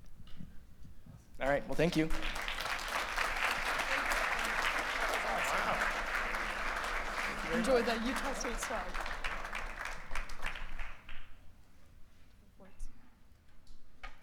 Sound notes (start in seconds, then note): 5.0 applause